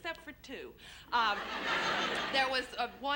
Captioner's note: laughter